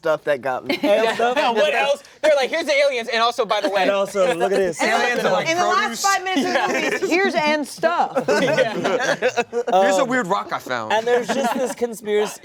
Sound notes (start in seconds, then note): 0.6 laughter; 8.1 laughter